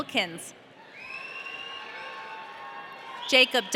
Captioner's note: audience cheering